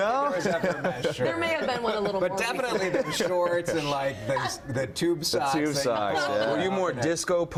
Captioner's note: laughter